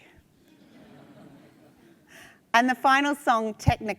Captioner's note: attendees laugh